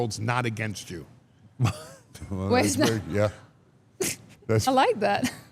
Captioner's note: chuckles